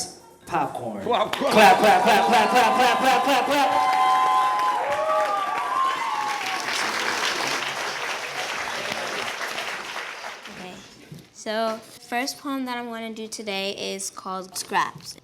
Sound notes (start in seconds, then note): 7.2 cheers